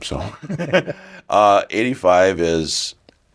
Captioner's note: laughs